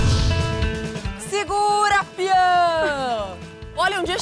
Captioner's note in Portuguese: grita